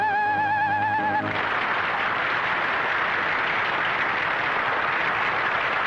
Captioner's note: applause